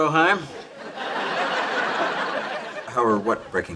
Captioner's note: audience laughs